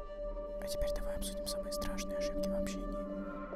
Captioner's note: whispering